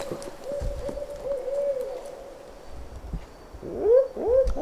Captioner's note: owl hooting